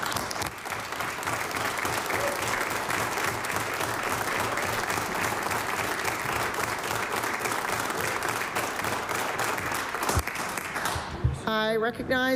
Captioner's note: applause